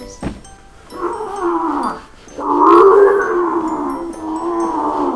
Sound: Khal Drogo grunts

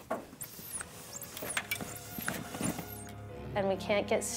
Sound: air compressor squeaking

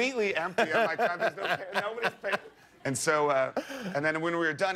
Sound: laughter

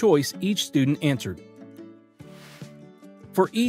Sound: cheerful music; screen graphics whooshing

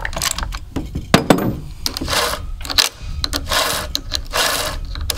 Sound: saw teeth whirring

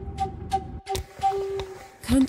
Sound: sounds of footsteps

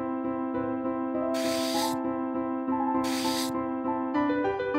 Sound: scraping sounds

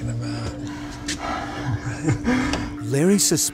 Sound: laughs

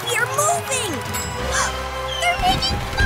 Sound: gasps

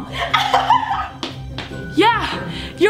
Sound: laughs

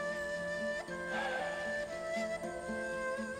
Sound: Nefes sesi

